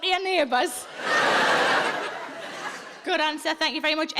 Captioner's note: audience laughs